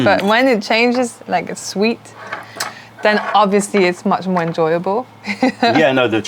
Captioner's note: laughter